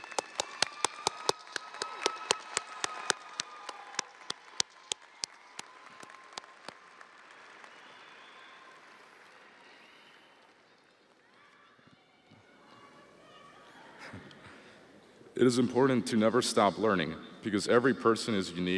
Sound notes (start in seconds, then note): 4.2 audience applauding; 4.2 audience cheering